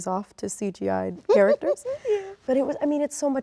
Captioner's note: laughs